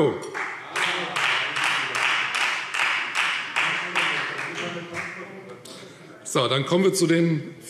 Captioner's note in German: Beifall Freie Demokraten